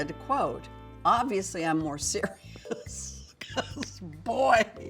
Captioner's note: laughs